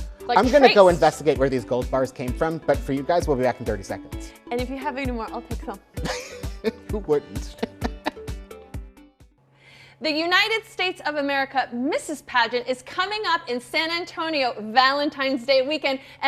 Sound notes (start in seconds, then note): 7.2 chuckles; 8.4 gentle music